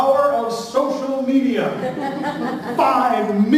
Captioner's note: laughter